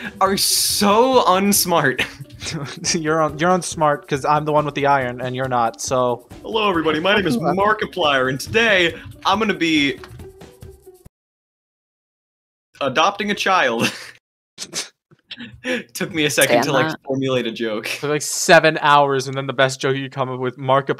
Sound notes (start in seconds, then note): 2.0 snickers; 6.5 markiplier voice; 11.1 music stops; 13.6 laughs; 14.4 snickers; 16.4 laughing